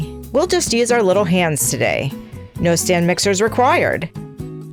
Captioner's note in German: italienisch